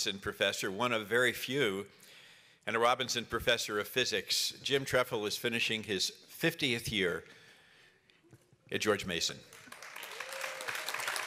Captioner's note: applause